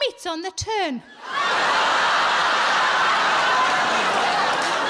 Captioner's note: audience laughing